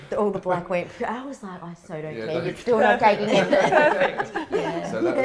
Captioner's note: all laughing